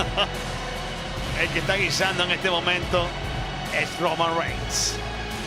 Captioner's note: laugh